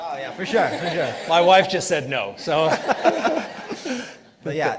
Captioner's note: participants laughing